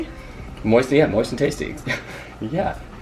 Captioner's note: laughs